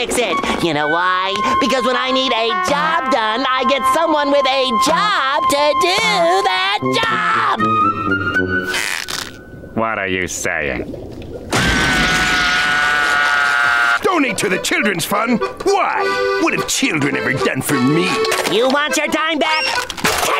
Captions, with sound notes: You know why? Because when I need a job done, I get someone with a job to do that job! What are you saying? [screaming] Donate to the children's fund? Why, what have children ever done for me? You want your dime back?